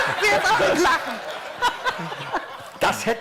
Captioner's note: laughter